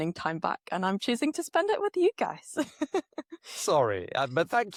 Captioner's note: laughs